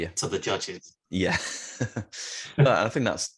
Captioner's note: laughs